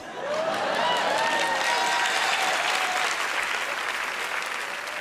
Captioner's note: cheers and applause